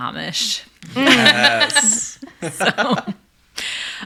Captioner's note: laughing